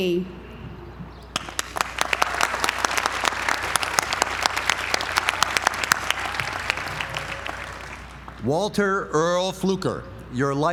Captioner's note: applause